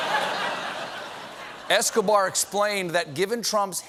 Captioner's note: laughter